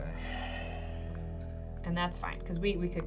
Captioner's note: sighs